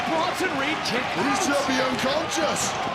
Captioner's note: audience cheering